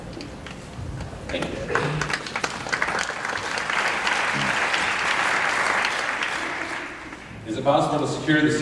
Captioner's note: applause